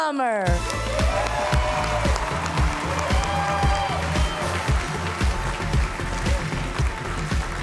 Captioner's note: cheerful music; audience cheering